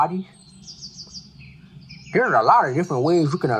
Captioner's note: birds chirping